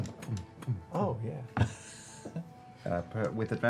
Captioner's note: popping noises